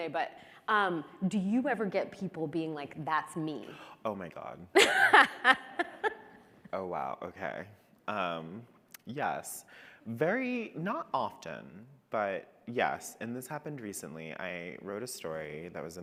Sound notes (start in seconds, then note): 4.7 laughs